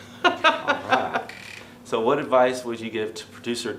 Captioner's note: laughing